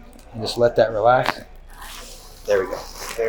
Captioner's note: neck cracks